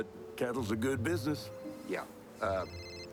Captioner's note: phone ringing